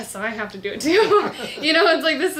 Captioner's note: laughs